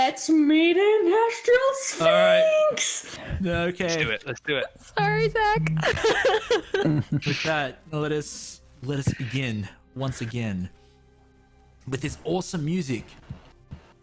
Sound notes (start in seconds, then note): 5.1 giggles